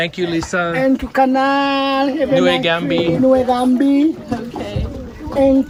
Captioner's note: speaking in foreign language